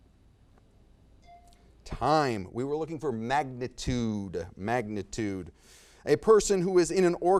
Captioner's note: bell dings